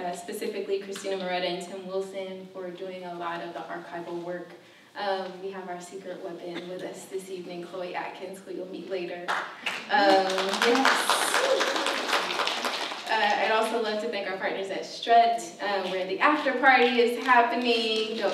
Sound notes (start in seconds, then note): 9.3 applause